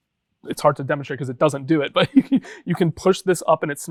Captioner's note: laughs